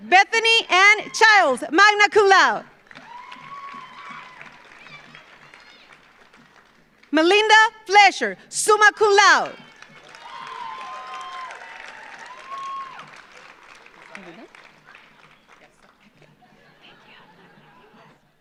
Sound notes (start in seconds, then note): 0.0 audience applauds; 0.0 audience cheers; 2.7 audience applauds; 2.7 audience cheers; 9.3 audience cheers; 9.4 audience applauds